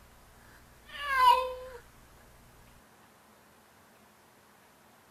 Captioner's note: cat meowing